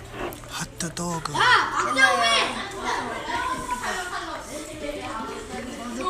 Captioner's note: speaking foreign language